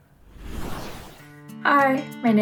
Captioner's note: whooshing sound effect